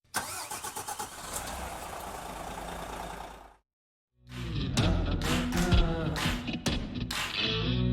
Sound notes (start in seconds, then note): 0.2 car engine revving; 4.3 upbeat music